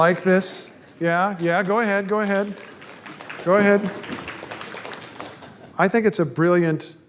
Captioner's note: applause